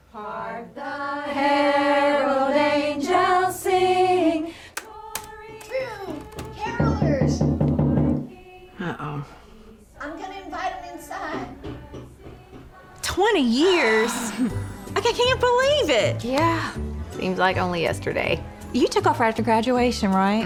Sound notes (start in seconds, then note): 6.1 knocking on door